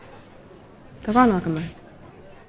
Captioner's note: in irish